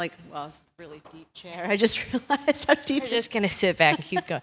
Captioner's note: laugh